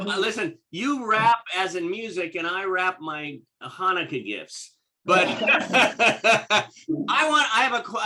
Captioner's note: laughter